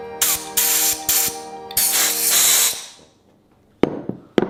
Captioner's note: gas hissing